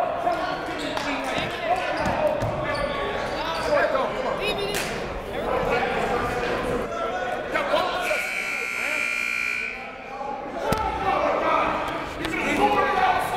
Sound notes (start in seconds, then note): 8.0 buzzer